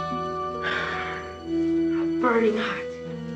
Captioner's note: sighs